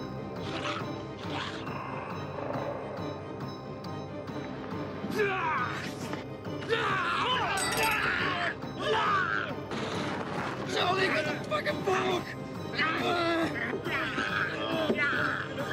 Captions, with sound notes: (choking) (yelling) - Billy, you're a fucking fool!